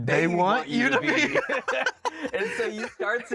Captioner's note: both laugh